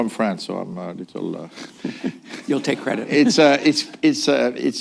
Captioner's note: laughs